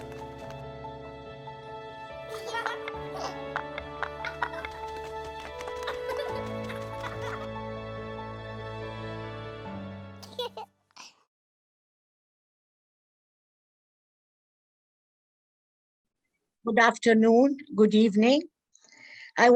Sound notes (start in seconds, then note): 2.2 children laughing; 3.5 blocks tapping; 3.5 children giggling; 10.2 child giggles